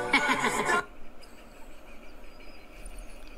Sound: inside Laughter

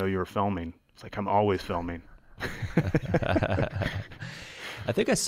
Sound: chuckles

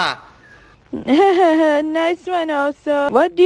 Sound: laughing

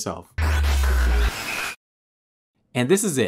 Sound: radio tuning effect

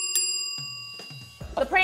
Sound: bell dings

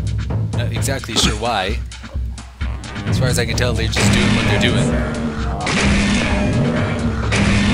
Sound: gunshots and monster roars

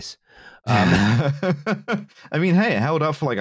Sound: laughs

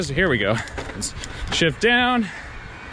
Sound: gears clicking

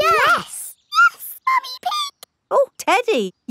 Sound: in high-pitched voice

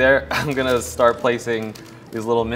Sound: laughs

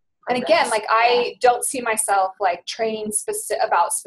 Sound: voiceover

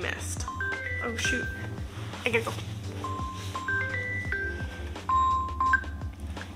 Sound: phone ringing

